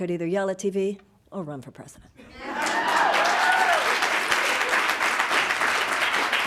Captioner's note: audience applauding